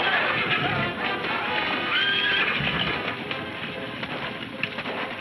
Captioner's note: horses neighing